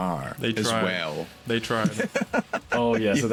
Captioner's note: laughs